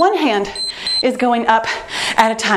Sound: timer beeps

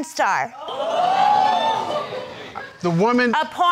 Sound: crowd gasping

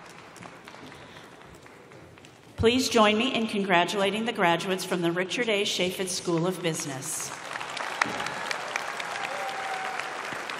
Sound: applause

